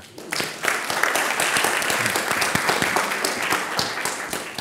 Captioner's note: applause